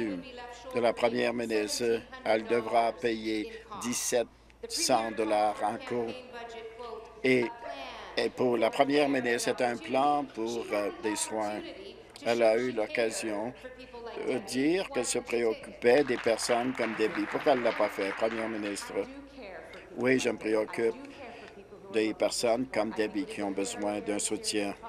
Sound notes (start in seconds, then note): 18.8 applause